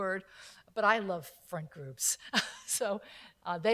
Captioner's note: laughs